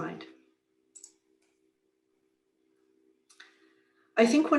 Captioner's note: mouse clicks